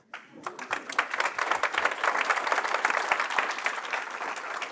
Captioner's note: applause